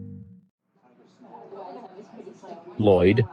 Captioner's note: diner background sounds